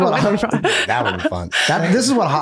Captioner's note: laughing